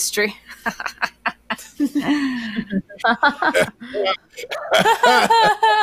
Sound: laughing in unison

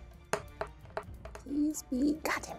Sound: dice rolling

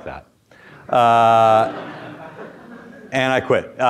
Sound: students laugh

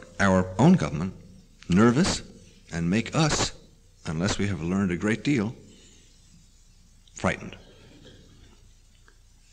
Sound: pause

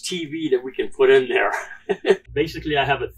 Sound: laughs

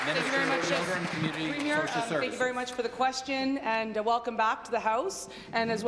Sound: applause

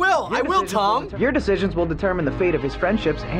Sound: voice-over

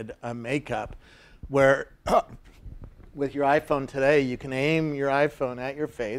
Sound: cough

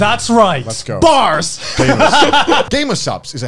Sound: laughing

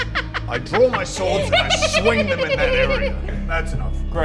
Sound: more creepy laughing

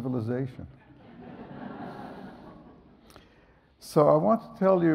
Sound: audience laughs

